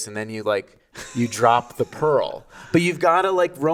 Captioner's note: laughing